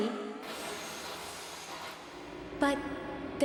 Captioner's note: train-line skidding